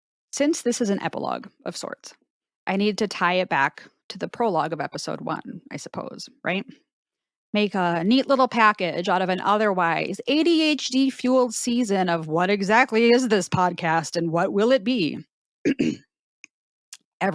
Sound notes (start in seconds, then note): 15.6 ahem